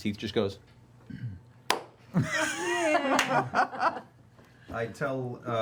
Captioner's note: laughter